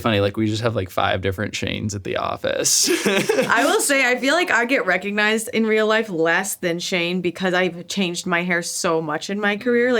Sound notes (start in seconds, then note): 2.7 laughs